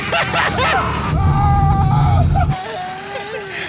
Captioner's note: laughing